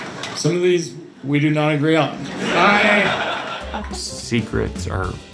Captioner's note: laugh ter